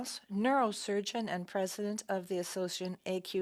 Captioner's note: speaking French